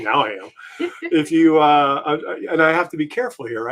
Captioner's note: giggles